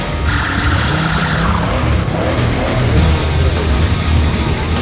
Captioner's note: tires squealing